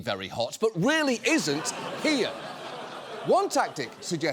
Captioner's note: studio audience laughs